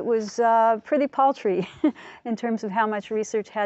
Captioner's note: laughs